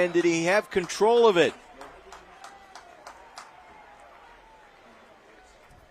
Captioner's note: applause